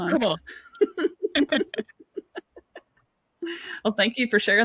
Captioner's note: both laugh